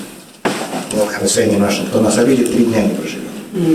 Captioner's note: speaking Russian